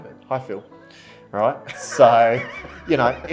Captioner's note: laughs